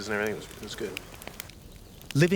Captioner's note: voiceover